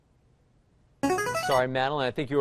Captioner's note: chiming